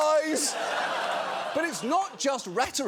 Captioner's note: audience laughing